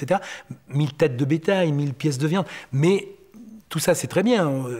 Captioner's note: French spoken audio